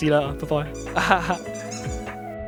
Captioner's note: laughs